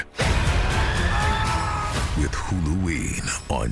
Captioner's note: screaming